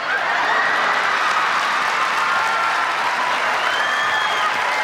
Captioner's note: audience applauds